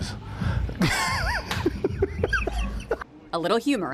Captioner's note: laughs